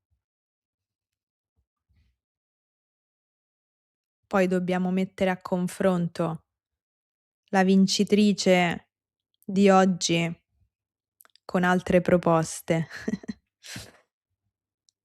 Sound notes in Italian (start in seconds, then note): 12.8 risate